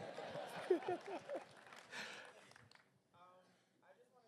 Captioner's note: applause